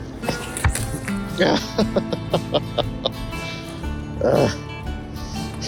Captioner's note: laughs